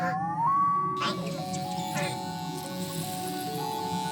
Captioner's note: mechanical buzzing; wall-e chattering soothingly